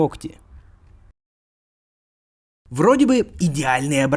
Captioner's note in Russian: пауза